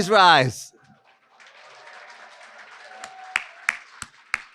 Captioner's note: applause